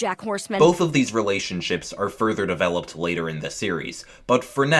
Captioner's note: voiceover